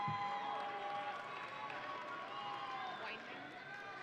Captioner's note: audience cheering